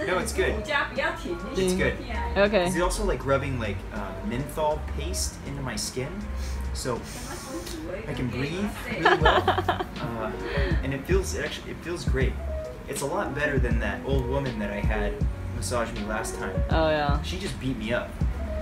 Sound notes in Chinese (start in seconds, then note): 7.3 大吸一口氣